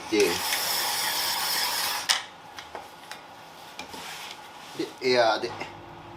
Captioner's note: working sound